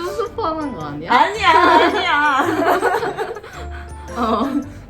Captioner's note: laugh